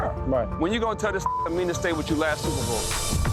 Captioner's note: beep